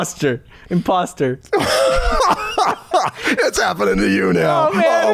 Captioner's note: laughter